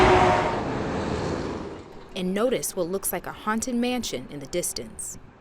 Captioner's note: traffic running on highway